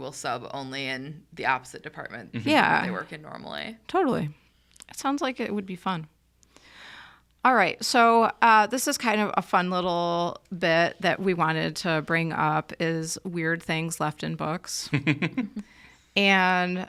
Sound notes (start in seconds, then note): 14.9 laughs